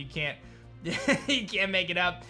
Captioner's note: chuckles